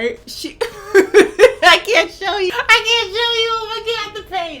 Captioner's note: laughing